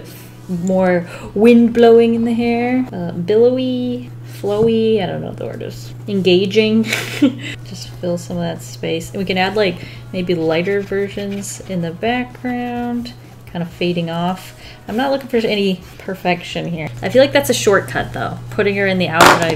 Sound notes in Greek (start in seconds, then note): 6.8 Γέλια